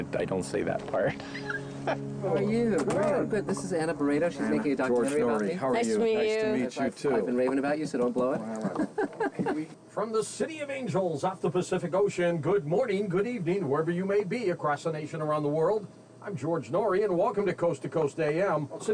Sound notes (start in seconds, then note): 1.1 laughing; 8.3 laughing